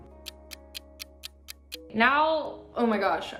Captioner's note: ticking